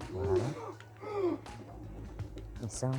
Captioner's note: groans of pain